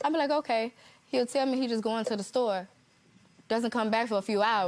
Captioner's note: none